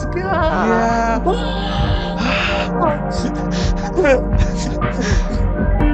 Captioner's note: both imitating crowd cheering; both laughing; chill music